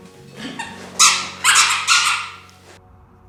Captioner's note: squeaky toy